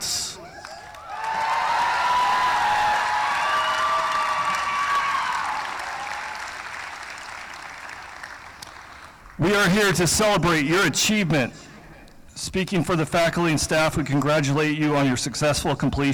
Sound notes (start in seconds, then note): 0.4 cheering; 1.9 applause